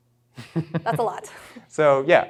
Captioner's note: chuckles